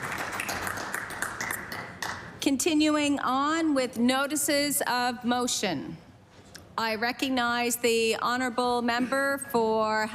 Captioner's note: applause